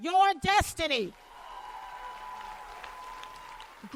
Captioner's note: cheers and applause